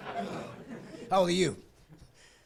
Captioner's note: laughing